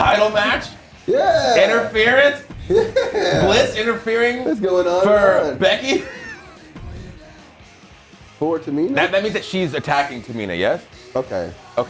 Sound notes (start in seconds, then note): 2.9 laugh